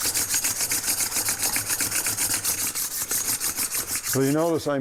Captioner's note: metal and stone scraping